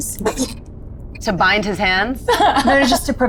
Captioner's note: laughs